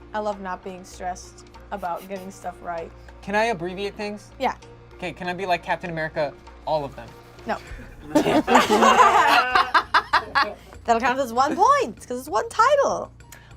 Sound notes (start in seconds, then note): 7.6 group laughs